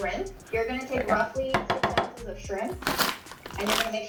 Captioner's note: tapping